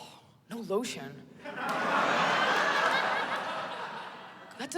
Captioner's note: laughter